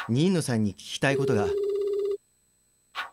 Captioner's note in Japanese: 📱 呼び出し音：プルルル･･･